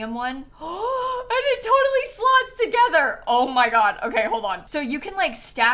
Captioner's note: gasps